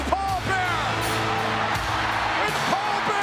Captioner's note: crowd cheers